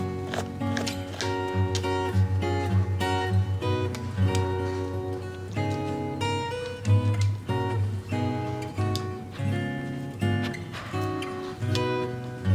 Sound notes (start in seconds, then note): 0.0 scratching; 9.3 sniff